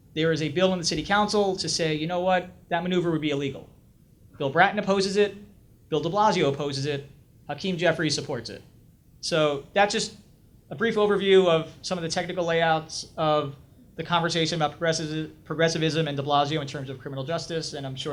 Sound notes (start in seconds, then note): none